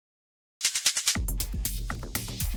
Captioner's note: energetic music; rhythmic clicking